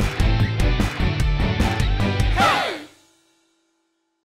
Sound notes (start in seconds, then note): 1.4 voiceover